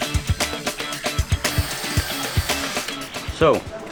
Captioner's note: drill whirring